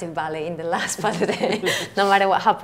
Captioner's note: laughs